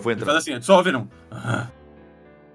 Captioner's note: growls